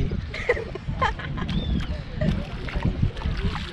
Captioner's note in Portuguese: risos